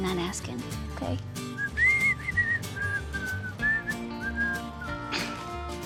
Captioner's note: whistling; laughs